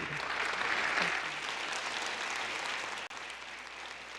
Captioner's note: applause